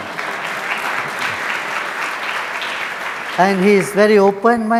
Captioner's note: audience applauds